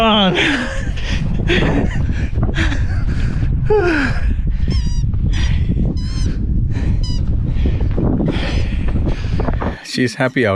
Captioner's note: dog toy squeeking